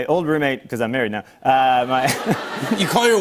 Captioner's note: laughter